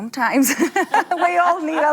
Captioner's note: both laughing